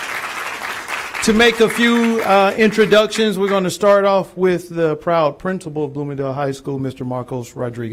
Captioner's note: applause